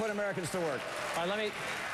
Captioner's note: applause